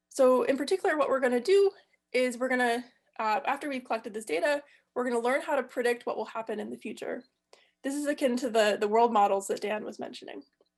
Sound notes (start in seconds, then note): none